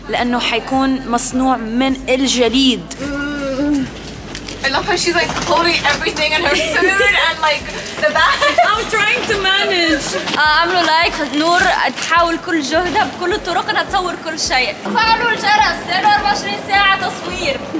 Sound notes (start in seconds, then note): 2.9 groaning